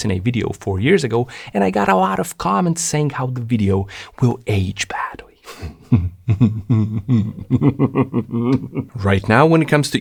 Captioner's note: evil laughter